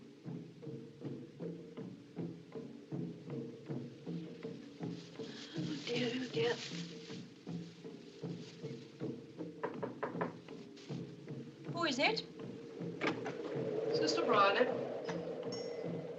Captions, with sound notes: Oh, dear. Oh, dear. [ Knock At Door ] Who is it? Sister Briony.